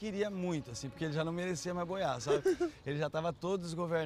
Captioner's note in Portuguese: risada